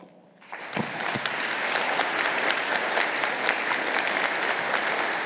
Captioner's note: audience applauding